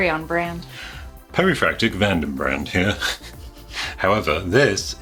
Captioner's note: chuckles